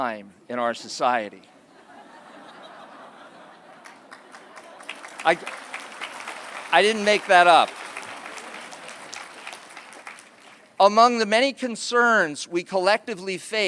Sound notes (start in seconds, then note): 1.6 laughter; 4.3 applause